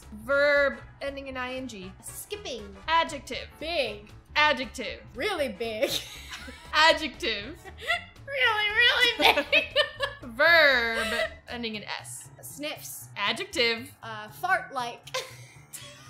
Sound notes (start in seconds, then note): 5.8 both laugh; 9.0 laughs; 9.1 both laugh; 15.1 both laugh